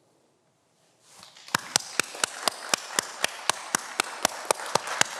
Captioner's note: everyone applauds